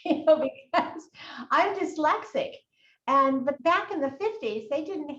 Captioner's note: laughs